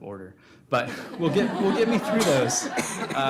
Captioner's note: audience laughing